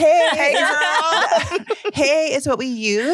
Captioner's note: chuckles